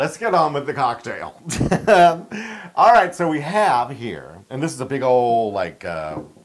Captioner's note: laugh